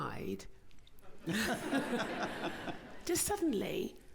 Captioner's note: laughter